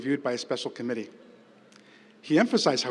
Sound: none

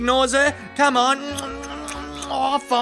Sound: Turtle smoochy kissy noises

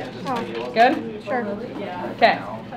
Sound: voiceover

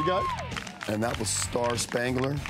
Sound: crowd cheering and clapping

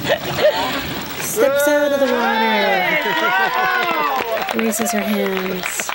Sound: cheers

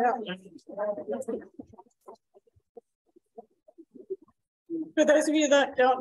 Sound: chatter in the background

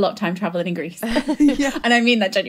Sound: laughing

